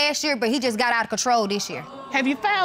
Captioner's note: audience exclaims